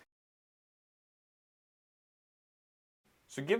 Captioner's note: silence